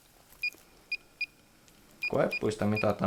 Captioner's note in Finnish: laite piippaa